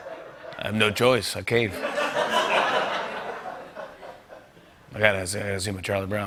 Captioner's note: laughter